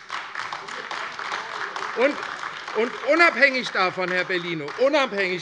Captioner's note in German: Beifall AfD